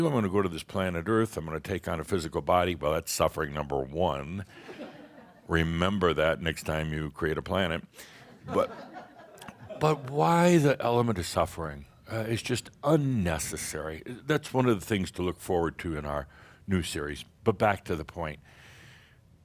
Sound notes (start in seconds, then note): 4.7 some chuckles; 8.4 more chuckles